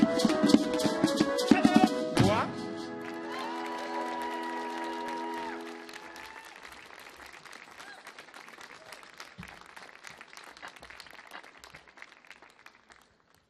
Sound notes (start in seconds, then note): 2.9 audience clapping; 2.9 audience cheering